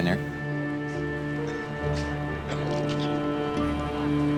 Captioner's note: coughing